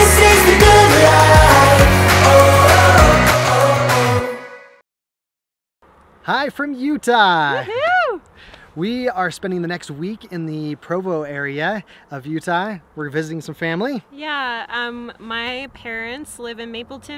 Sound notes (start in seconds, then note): 7.6 cheering